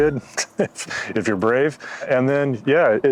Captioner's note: chuckles